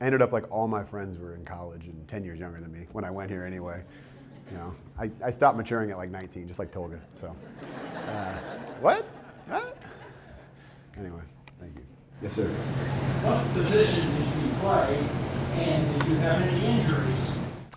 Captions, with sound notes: Ended up like all my friends were in college and ten years younger than me when I went here, anyway. (audience chuckles) I stopped maturing at, like, 19, just like Tolga so. (audience laughter) What? Huh? Anyway, thank you. Yes, sir? >> What position did you play, and did you have any injuries?